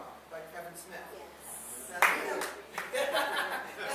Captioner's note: audience: "yes" - small applause, laughter